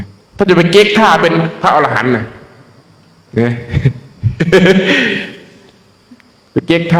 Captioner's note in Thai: เสียงหัวเราะ